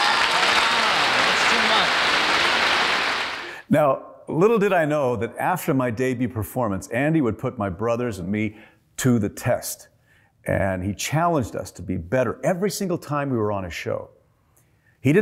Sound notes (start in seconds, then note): 0.0 applause